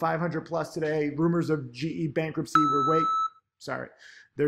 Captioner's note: alert beeps